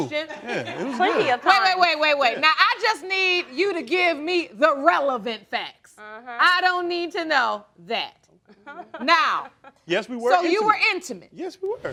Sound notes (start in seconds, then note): 8.3 laughing